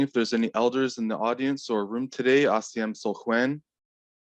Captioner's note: speaking Hul'qumi'num